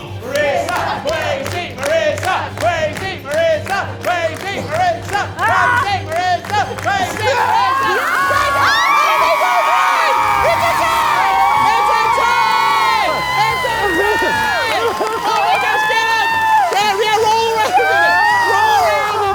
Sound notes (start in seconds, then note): 1.8 continue chanting; 5.4 groans; 8.2 everyone cheering